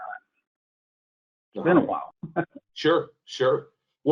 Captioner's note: laughs